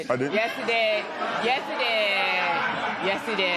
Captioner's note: laughter